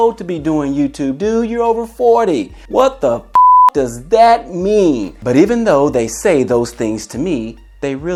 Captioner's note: beep